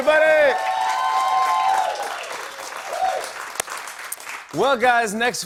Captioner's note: cheering and applause